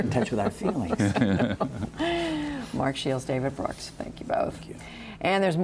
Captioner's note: laughter